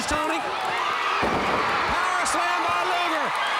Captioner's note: crowd cheering